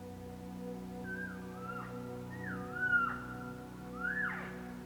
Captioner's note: bird chirps; elk calls